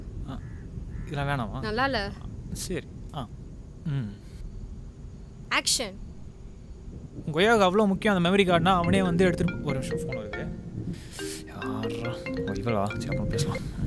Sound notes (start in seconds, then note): 8.8 phone ringing